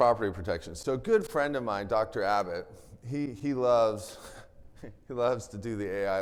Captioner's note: chuckles